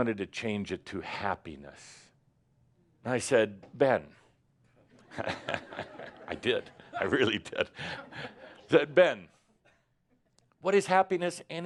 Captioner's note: laughter